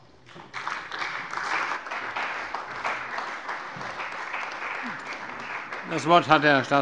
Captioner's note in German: Beifall bei der CDU und dem BÜNDNIS 90/DIE GRÜNEN